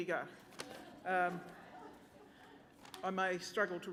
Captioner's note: laughter